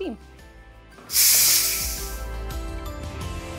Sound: hissing

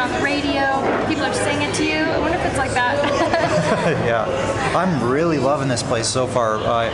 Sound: laughter

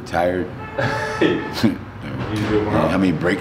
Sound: chuckles; laughing

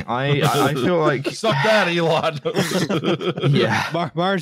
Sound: laughter

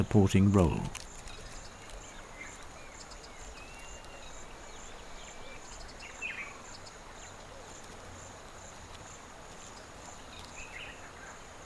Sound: nature sounds

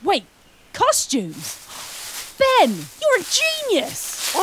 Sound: gasps

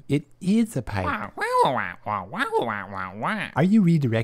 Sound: squawk

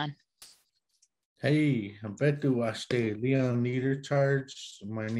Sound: speaks foreign language

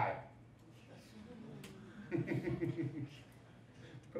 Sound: laughs

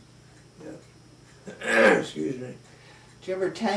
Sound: clears throat

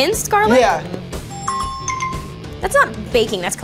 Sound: app chimes

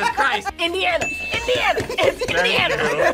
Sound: buzzer rings; bell rings

